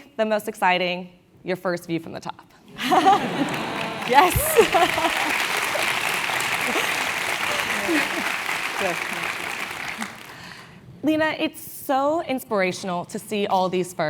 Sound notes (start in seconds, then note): 3.5 applause; 4.6 laugh; 5.7 applause